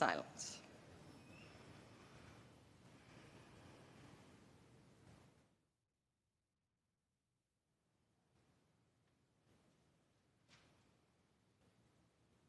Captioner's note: A Moment of Silence was observed